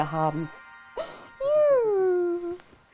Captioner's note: Lachen